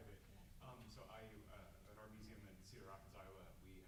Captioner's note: mutters